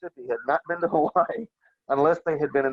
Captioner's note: laughs